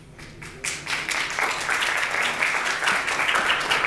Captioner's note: applause